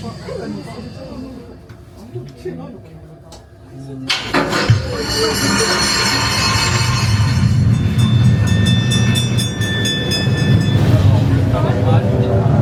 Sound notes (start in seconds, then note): 0.0 people talking; 8.0 bells ringing